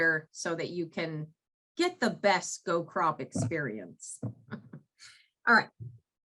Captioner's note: chuckles